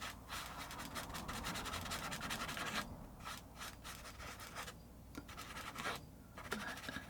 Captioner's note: scratching sounds